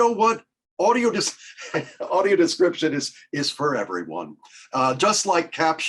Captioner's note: chuckles